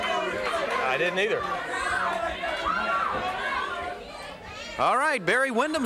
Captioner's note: crowd murmuring